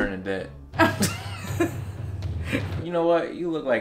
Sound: laughing

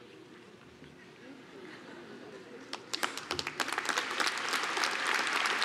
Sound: applause

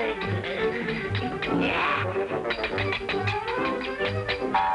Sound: metal clanging

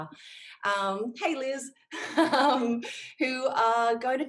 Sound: laughs

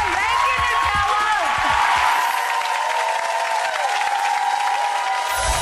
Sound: audience cheering

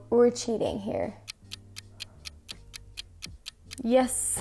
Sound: clock ticking

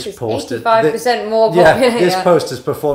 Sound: laughing

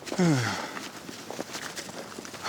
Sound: sigh

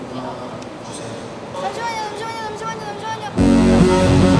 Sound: sounding hurried

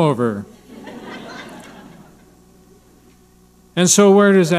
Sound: audience laughing

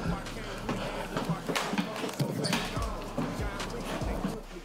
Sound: Brandon and Malik breathe heavily

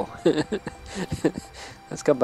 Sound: laughs

